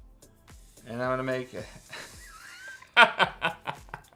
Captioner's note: laughs